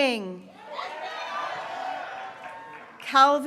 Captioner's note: graduates cheering